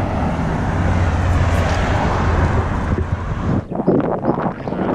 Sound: car engines roaring

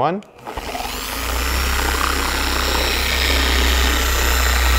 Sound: polisher whirring

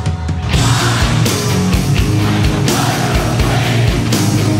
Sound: crowd

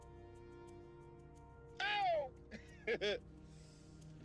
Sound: laughing; dark electronic music

